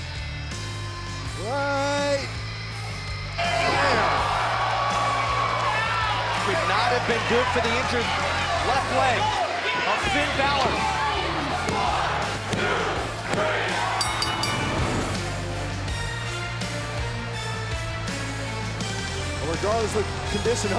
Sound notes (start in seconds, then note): 3.0 crowd chatter; 11.2 bell ringing